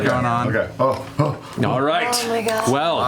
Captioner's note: grunts